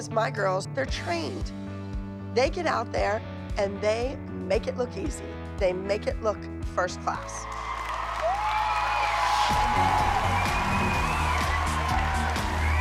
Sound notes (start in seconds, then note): 7.4 cheering wildly